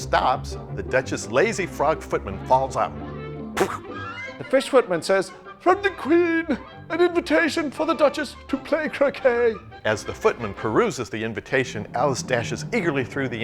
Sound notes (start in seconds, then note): 3.6 imitates thud